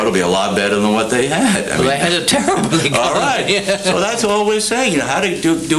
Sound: laughs

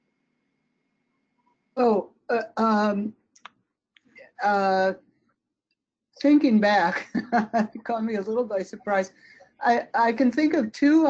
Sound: chuckles

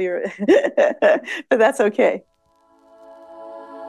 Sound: laughs; audio logo

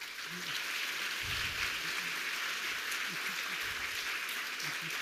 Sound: audience applauding

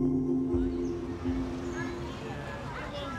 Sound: birds tweet, wind blows

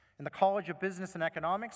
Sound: none

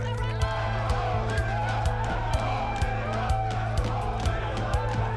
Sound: players cheering

